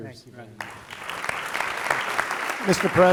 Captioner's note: applause